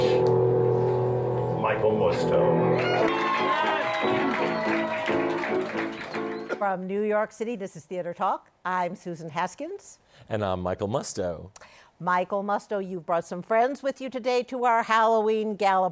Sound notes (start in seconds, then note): 2.6 cheers and applause